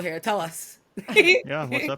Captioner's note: laugh